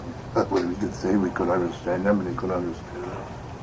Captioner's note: chuckles